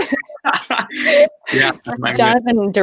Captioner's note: laughing